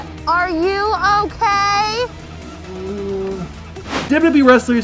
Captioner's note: Big Show groans